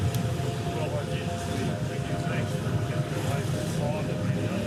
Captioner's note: praying